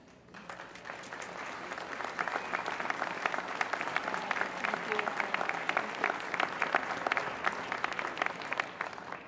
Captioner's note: applause